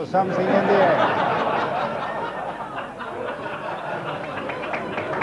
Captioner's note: audience laughs